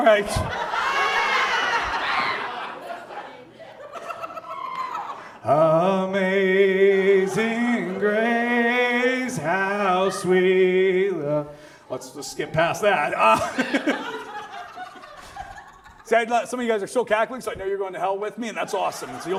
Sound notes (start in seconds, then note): 0.0 audience cackles in East Palestinian; 13.5 audience laughs